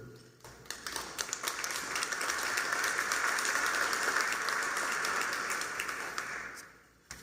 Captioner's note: applause